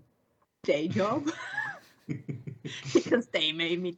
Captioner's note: laughter